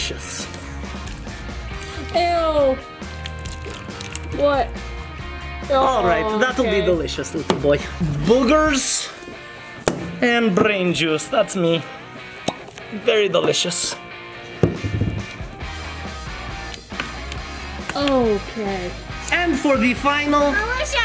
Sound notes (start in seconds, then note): 0.2 upbeat music; 3.0 milk gurgling; 3.4 upbeat music; 14.6 cup thudding; 15.5 upbeat music